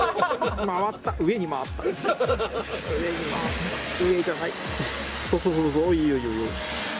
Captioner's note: laughs